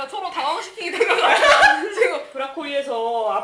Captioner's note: laughing